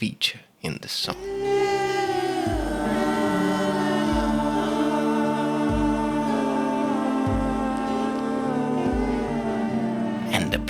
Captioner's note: big ooh and aah